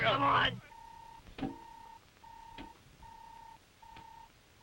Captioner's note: robot beeping